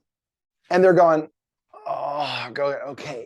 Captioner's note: groans